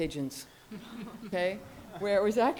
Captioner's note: audience laughs